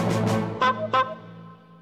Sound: honk! Honk!

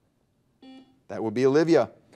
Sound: buzzer dings

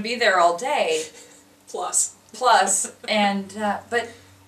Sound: laughing

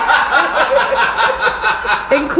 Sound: laughing

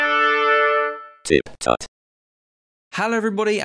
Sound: trumpet fanfare; electronic voice

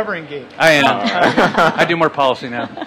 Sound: laughter

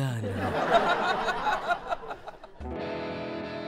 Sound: audience laughs; musical interlude

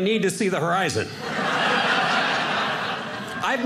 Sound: audience laughing

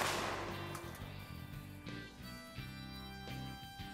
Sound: gunshot

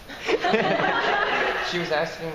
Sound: laughing

